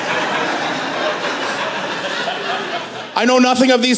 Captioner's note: laughter